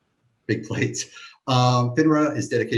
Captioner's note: chuckles